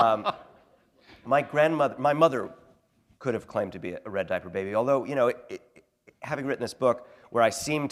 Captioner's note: laughter